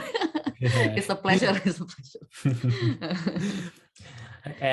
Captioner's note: laughs